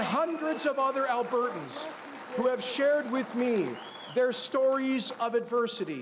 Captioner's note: cheers and Applause